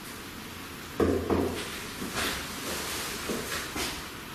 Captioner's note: knocking